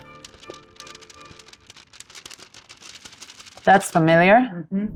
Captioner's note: paper rustling